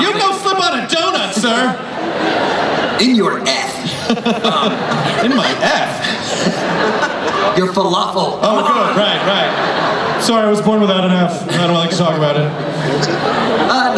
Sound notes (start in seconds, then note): 3.7 laughter